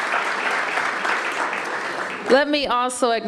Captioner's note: applause